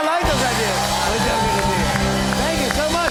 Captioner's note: cheers and applause